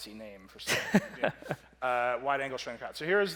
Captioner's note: laughs